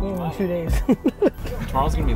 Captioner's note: laughs